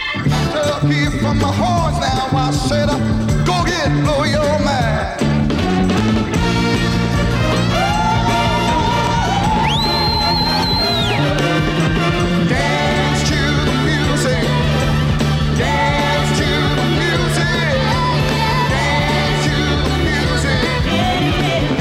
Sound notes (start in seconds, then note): 6.2 music crescendos; 7.6 women vocalize; 9.0 hand whistling